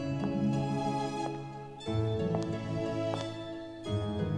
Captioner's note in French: claquement des talons sur la pierre